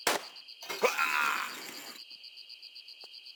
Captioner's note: aaaaarght!!!